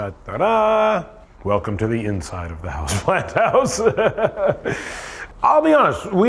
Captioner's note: laughs